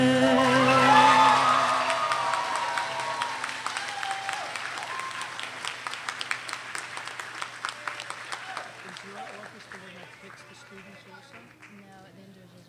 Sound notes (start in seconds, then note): 1.0 audience cheers and applauds